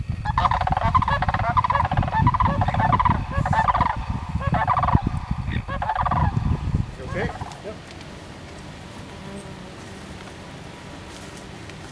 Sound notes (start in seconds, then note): 0.0 sandhill Cranes calling; 8.0 mosquitoes buzzing